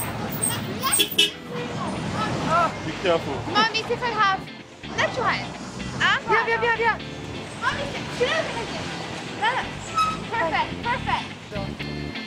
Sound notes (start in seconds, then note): 0.8 bus horn; 2.8 in English